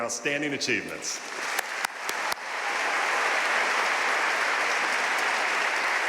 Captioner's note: audience cheering and applauding